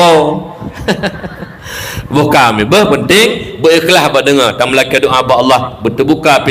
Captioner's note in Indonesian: tertawa